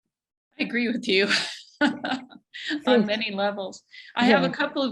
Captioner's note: laughs